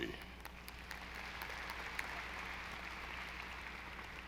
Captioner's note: audience applauding